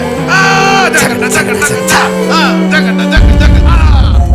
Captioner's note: imitates beats